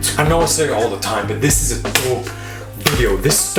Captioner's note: hands clapping